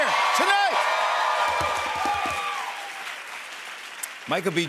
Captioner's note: cheers and applause